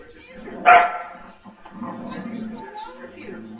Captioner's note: dog barks and growls